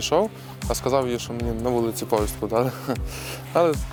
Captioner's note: laughs